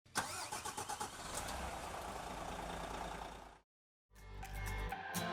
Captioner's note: vehicle engine roaring; bright upbeat music